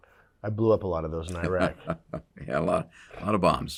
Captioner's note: laughs